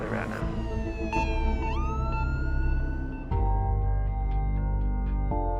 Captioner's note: sirens